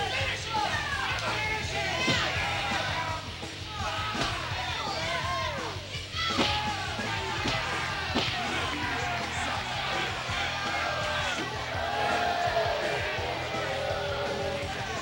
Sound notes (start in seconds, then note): 6.1 crowd shouting; 7.0 kicks pounding; 11.6 intense rock music